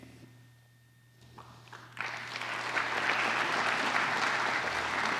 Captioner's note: applause